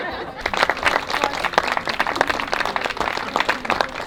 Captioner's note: applause